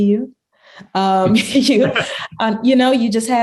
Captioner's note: laughing